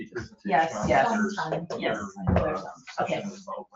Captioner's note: overlapping chatter